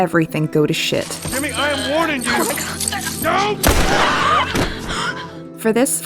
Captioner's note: gunshot